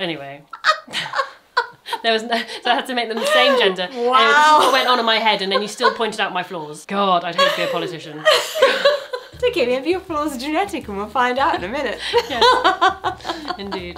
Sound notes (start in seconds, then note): 0.5 laughs; 7.3 laughs; 12.0 laughs